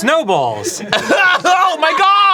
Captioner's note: cough